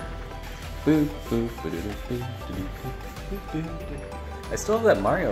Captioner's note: Humming a Super Mario theme song